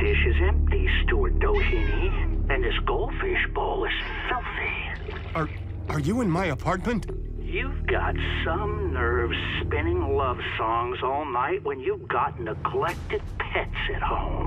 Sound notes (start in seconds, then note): 4.8 water splashes